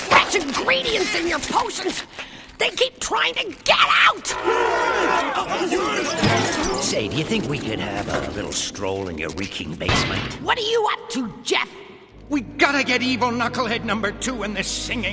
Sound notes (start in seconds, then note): 4.2 growling